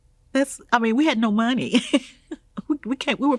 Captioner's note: laughing